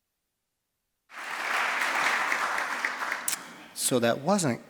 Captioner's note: applause